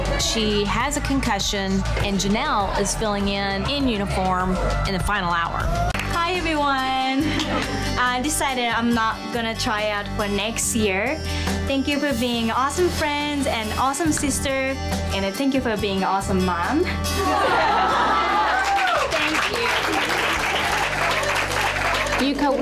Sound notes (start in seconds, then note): 7.2 women giggle; 17.1 women laugh; 17.2 women cheer; 18.4 women awing